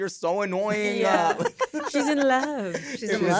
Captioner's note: laughter